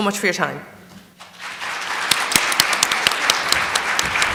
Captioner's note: applause